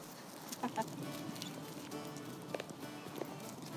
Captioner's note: laughs